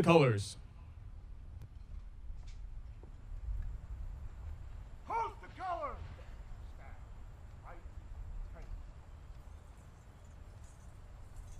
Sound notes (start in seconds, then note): 4.0 soldiers shouting commands; 7.1 medals clinking